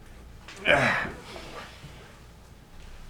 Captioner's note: grunts